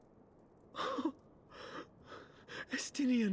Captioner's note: gasp